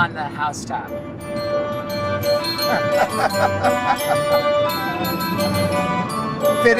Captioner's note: laughing